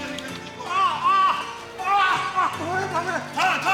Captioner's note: yelling